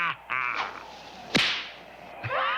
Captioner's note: laughing; whip cracks